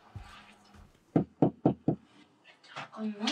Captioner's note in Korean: 노크 소리